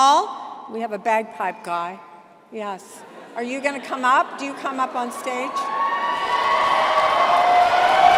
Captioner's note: cheering